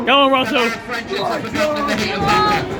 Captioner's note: whistle blows